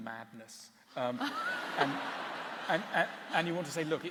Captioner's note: laughter